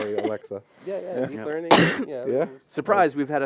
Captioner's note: laughter